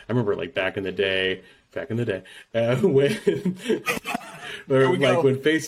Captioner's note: chuckles